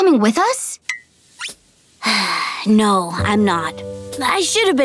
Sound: sighing

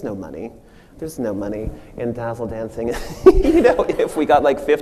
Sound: machine & audience laughs

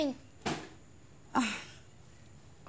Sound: chuckles

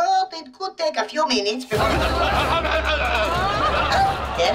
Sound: groaning

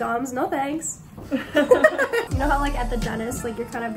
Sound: laughter

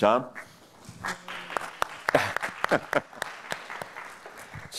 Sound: applause

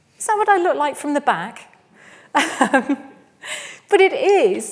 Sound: laughs

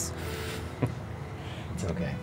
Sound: both chuckle

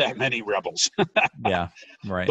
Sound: laughing

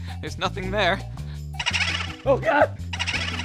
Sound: laughing

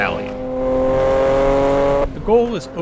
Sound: car engine roaring

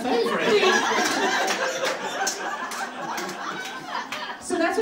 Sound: audience laughing

